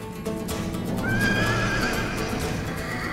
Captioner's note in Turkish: At kişneme sesi